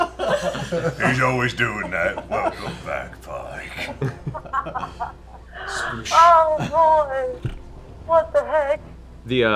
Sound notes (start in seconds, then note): 4.6 laughs